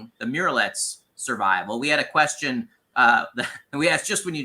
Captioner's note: chuckles